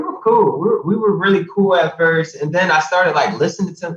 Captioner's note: all laughing; laughs